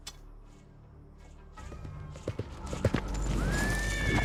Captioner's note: hoofbeats